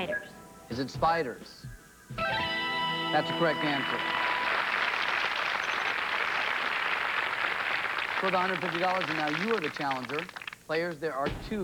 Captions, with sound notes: SPIDERS. IS IT SPIDERS? [fanfare] THAT'S A CORRECT ANSWER. [applause] IT'S WORTH $150, AND NOW YOU ARE THE CHALLENGER.